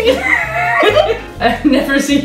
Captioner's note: laughs